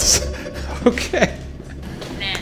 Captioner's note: laughs